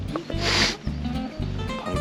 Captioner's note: sniff